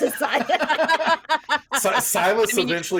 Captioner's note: everyone laughs